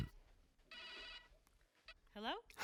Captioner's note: phone rings